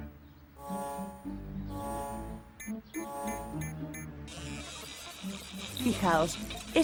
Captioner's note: buzzing